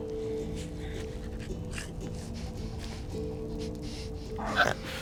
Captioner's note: Eddy snorting; Eddy grunting